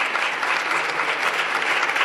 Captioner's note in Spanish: Aplausos